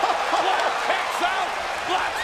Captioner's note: crowd cheering